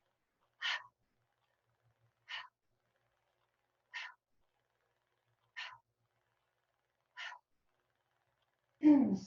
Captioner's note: mouth breathing continues